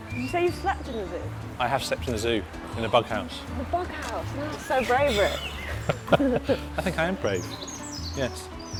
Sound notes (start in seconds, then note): 5.0 laughing